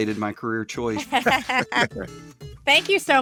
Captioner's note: theme music comes in; laughing